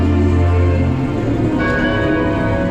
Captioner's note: clock chime